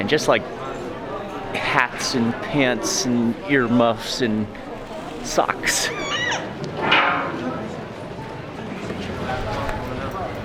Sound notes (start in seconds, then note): 4.1 chuckles; 5.6 door creaks